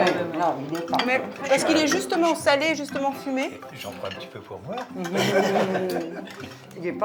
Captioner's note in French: rires